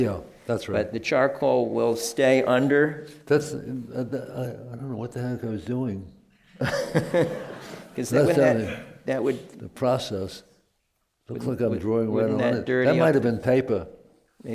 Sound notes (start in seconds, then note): 6.5 laughter